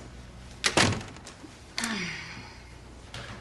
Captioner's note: Вратата се затваря